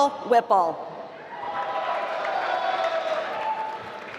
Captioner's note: applause